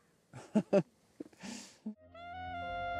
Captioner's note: laughs